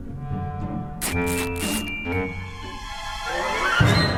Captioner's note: ripping; intense orchestral music